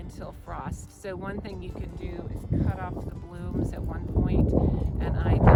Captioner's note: wind